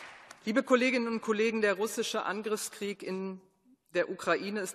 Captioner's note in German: Beifall